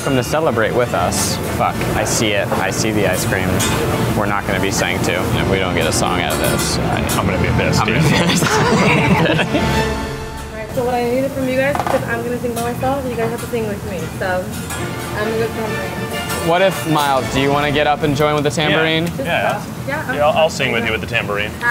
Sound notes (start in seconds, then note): 7.9 laughs